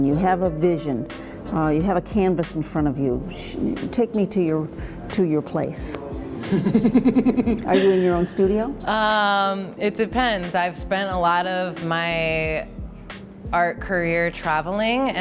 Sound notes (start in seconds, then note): 6.4 laughs